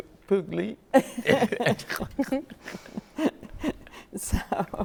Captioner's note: group laughs